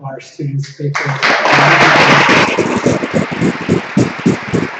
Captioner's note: applause